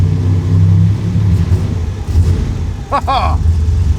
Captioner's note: engine turning over then revving; loud engine idle